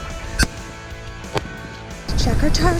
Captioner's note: gun shot